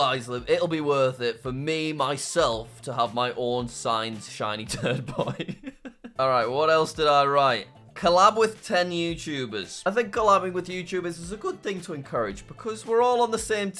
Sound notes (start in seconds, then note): 4.7 laughs